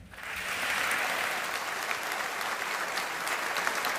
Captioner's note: audience applauding